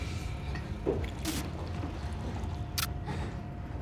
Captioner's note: drink sloshes; tense gloomy music